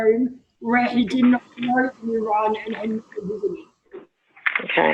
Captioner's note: audio distorted